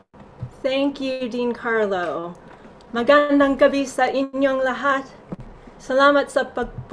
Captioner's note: speaks Tagalog